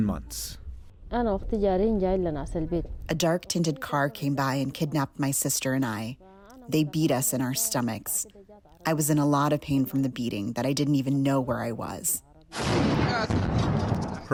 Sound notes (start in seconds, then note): 3.3 through translator